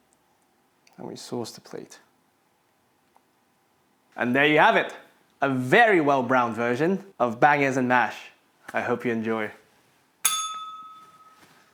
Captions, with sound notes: And we sauce the plate. And there you have it. A very well-browned version of bangers and mash. I hope you enjoy. [bell rings]